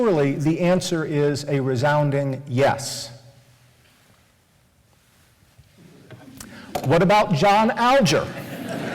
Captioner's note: laughter